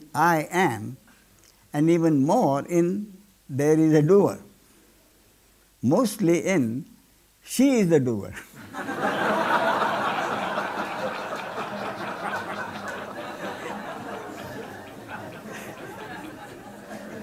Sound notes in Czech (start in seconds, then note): 12.4 smích